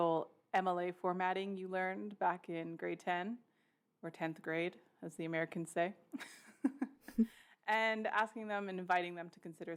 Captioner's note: laughs